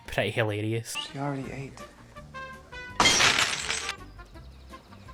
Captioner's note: glass smashes